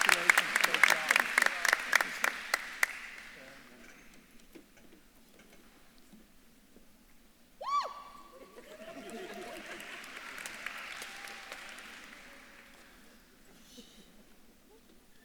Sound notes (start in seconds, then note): 3.0 faintly speaks; 8.4 audience laughs; 10.1 audience claps and cheers; 10.1 faculty laughs